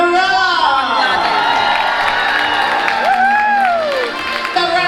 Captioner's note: crowd cheering